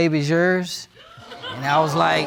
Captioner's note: audience gasping